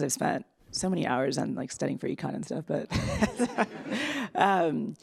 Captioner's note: laughs